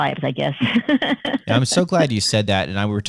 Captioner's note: laughter